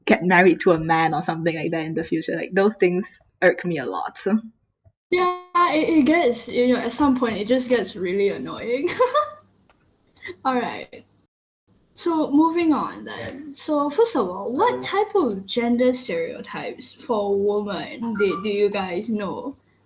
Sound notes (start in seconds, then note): 8.9 laughs